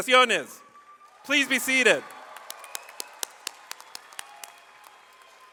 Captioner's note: audience applauds